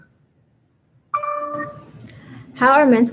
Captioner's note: computer dings